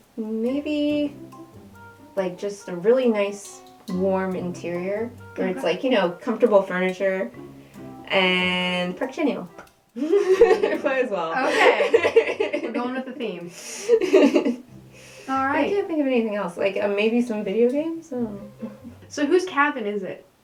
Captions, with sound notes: Maybe... like, just a really nice warm interior. - Okay. - Where it's like, you know, comfortable furniture. And... Park, Chanyeol. (laughing) Might as well. - Okay. We're going with a theme. - (laughter) - Alright. - I can't think of anything else, like, maybe some video games? I don't know. - So, whose cabin is it?